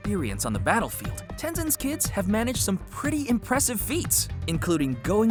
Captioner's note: none